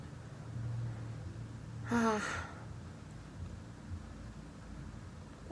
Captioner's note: a deep sigh